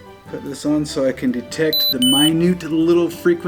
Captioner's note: high frequency beeping